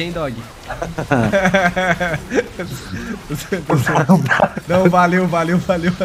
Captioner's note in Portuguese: risos